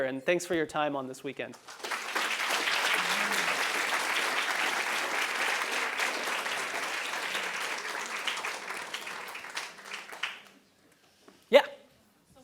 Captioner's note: applause